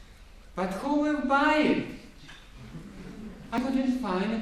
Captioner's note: gentle laughter